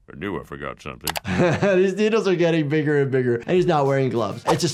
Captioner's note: chuckling